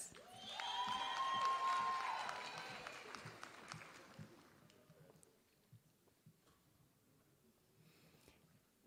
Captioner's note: applause